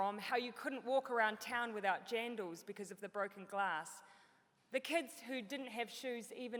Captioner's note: none